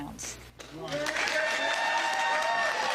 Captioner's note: applause